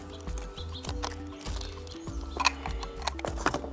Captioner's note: water splashing